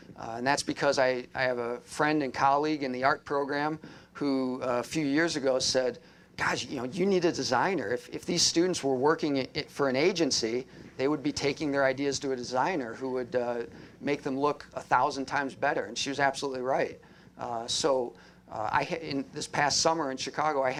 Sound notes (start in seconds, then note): none